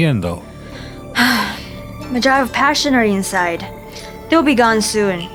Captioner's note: sighs